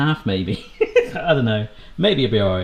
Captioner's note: laughing